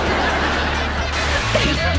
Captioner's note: laughter; white noise